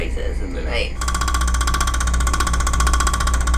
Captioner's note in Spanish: Ruido como un pájaro carpintero